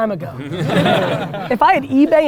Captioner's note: group laughter